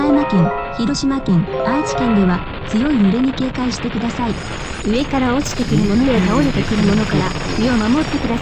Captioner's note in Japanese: ラジオ